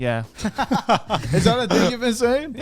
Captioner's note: laugh